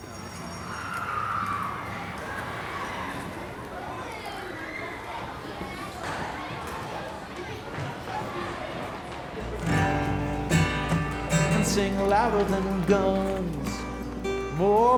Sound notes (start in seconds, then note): 0.0 bell ringing; 3.8 children laughing; 9.4 tranquil country music